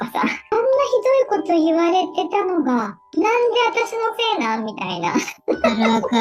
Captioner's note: laughs